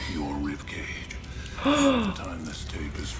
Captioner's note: person gasps